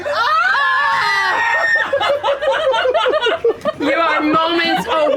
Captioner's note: screaming, laughter